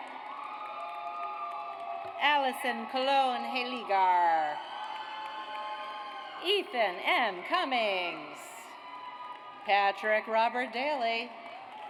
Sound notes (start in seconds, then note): 0.0 audience applauds; 4.8 audience cheers; 8.8 audience applauds